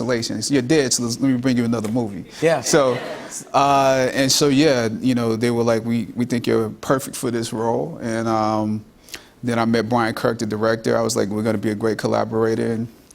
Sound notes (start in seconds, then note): 2.7 laughter